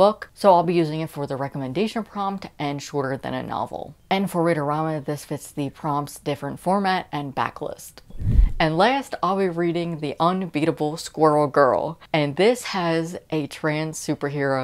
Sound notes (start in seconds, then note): 8.1 woosh